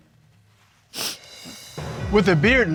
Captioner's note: sniffles